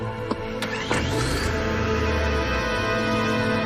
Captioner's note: car engine starts, revs